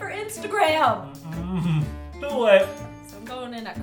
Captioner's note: chuckles